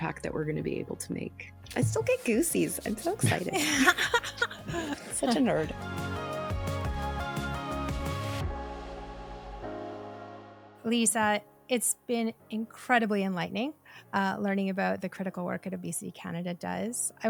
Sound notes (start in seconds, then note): 2.9 laughing; 6.0 upbeat music